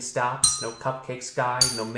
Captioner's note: bell dings